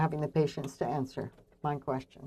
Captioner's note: speaking French